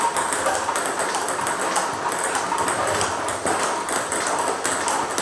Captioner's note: ball ping pong hitting continues